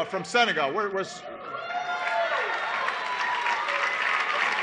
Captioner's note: applause